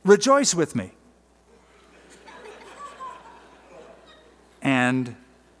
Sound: laughter

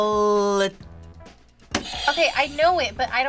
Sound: buzzer rings

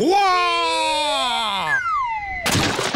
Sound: exclaims

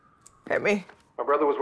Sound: sirens blaring

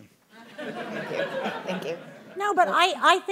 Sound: audience laughing

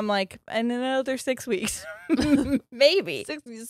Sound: laughs

